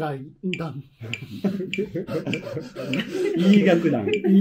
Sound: laughing

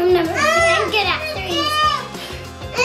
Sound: screams

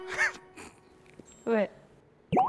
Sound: laughing

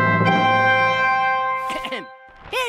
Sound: clears throat

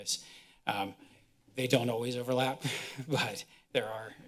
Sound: chuckles

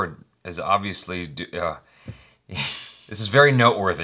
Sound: exhales

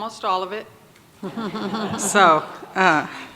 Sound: audience laughs

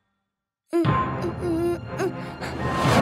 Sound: Nussa panicking

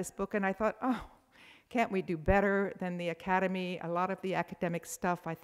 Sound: sighs

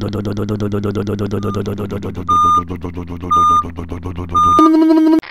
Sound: engine noise; back up beeper

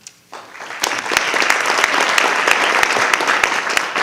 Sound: audience applauding

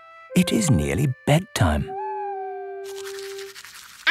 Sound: owl hooting

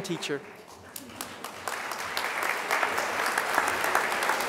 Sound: crowd applause

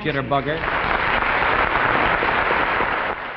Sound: audience applauding

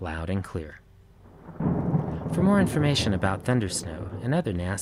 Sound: thunder rumbles

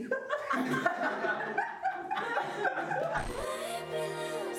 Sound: laughter

